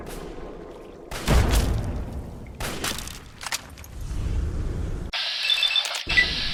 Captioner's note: the erratic explosions and the zipping by of bullets continues